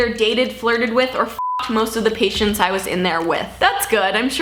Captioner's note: beep